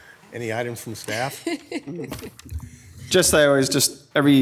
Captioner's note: board members laughing; board member laughing